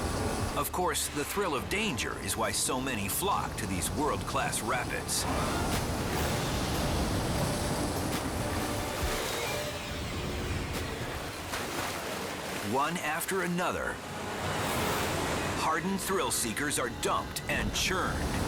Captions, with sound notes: Of course, the thrill of danger is why so many flock to these world-class rapids. (rapids thundering) One after another, hardened thrill seekers are dumped and churned.